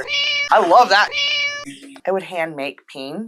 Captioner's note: meow